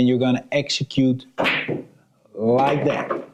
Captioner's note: balls clacking